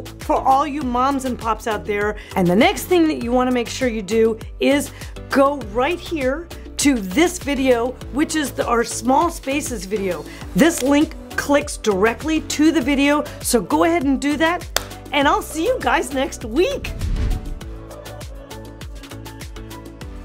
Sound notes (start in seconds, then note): 14.7 claps; 16.8 bright upbeat music